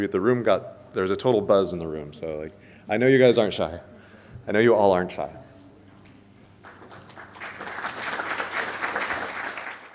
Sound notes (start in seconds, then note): 6.6 audience applauds